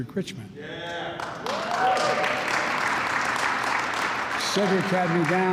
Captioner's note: applause